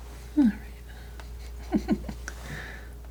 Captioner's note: chuckles